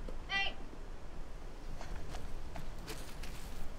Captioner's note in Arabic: خطى تقترب